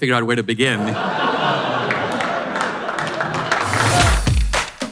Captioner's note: audience laughter